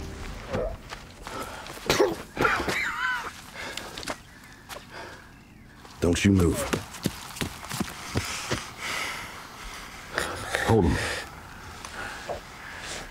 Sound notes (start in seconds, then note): 0.7 bandit groans; 1.8 bandit coughs; 6.6 footsteps thudding